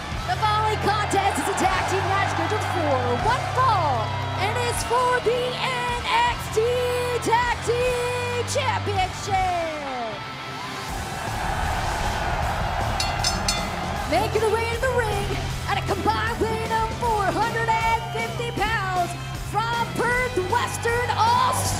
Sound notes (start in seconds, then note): 12.1 cheers & applause; 13.0 bell